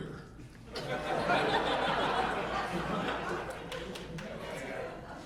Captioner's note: audience laughing